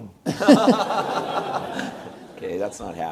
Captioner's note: audience laughs